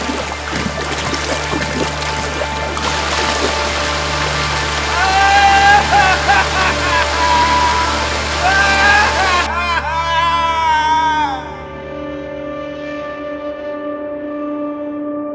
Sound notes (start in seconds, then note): 5.6 yelling and laughing